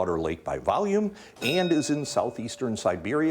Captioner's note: bell dinging